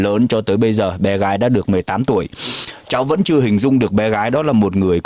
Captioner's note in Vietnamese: khịt mũi